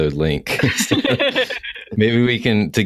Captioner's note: laughter